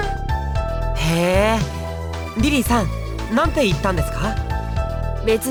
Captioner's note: interested hum